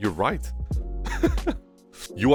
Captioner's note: laughs